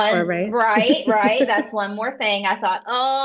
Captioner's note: laughs